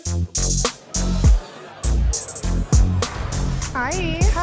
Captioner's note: rhythmic music; people chattering